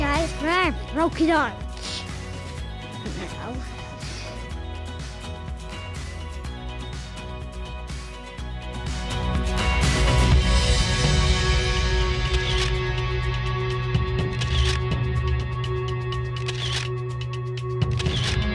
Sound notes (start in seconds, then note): 2.3 upbeat music continues; 12.1 camera clicks